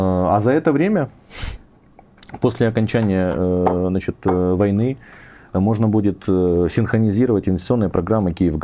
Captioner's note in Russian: фыркает